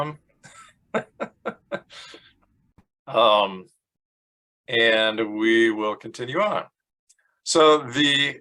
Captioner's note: laughs